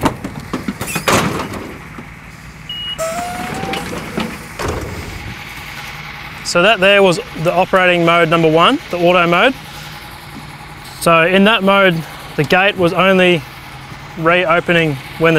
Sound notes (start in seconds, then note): 1.4 loud banging; 2.7 beep